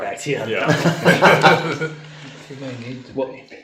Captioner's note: laughing